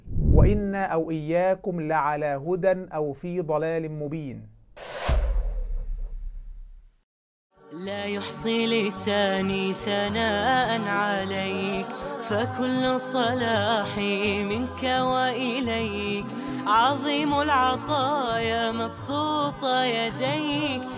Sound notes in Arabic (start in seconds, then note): 4.8 مُؤَثِّرَات صَوْتِيَّة